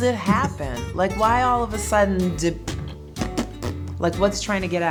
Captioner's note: popping